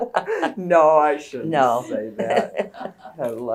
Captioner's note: laughter; laughter